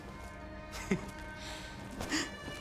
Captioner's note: laugh